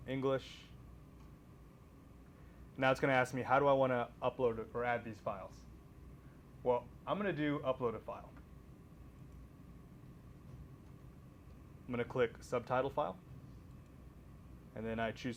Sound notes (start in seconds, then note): none